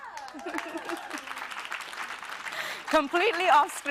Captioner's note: applause